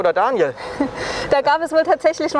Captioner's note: laughs